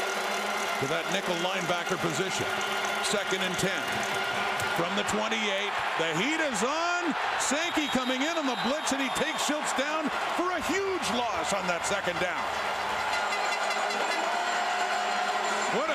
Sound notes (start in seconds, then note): 8.8 crowd Noise